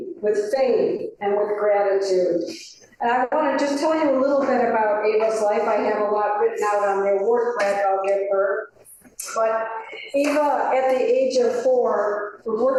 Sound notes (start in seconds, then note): none